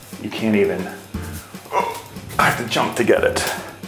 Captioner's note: grunts